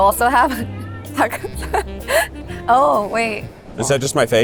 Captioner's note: chuckles